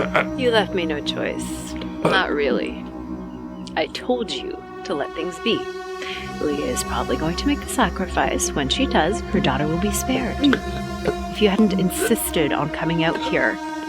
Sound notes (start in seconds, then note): 2.6 Morales groaning; 10.3 Morales choking